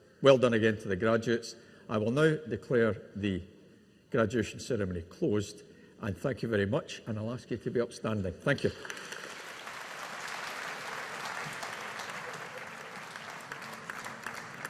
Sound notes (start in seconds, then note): 8.7 audience applauding